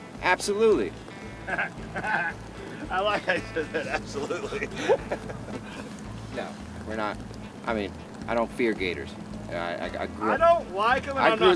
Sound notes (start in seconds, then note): 0.8 upbeat music; 1.1 laughs